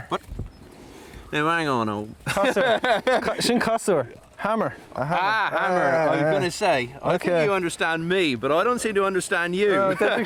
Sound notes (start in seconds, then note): 2.2 chuckles; 3.5 speaking Gaelic; 9.7 chuckles; 10.0 speaking Gaelic